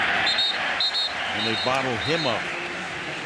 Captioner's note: whistle